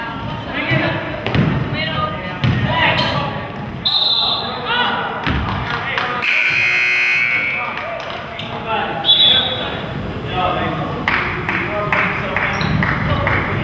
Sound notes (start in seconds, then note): 3.8 whistle blows; 6.2 buzzer goes off; 9.0 whistle blows